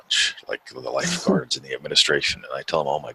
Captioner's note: chuckles